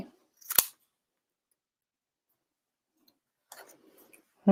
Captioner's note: scissor snips